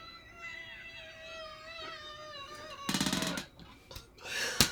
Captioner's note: laughs